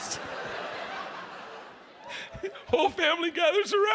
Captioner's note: audience laughs